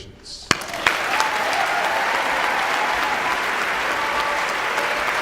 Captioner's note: audience cheering and applauding